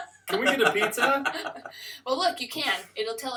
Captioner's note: laughter